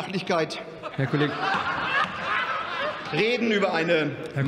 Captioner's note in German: Lachen bei der SPD und der LINKEN